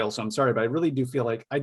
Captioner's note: none